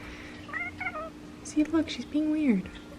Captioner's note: cat purrs